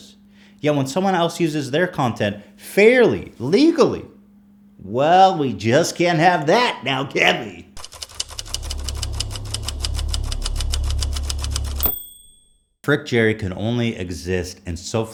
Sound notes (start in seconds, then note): 7.8 intense Typewriter Sound Effect